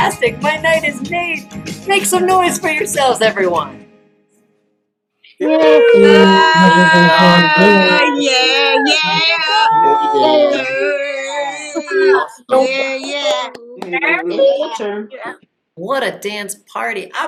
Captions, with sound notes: Fantastic, my night is made...Make some noise for yourselves, everyone [CHEERING] What a dance party